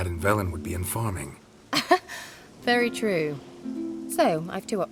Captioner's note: laugh